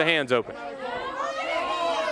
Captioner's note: crowd chatter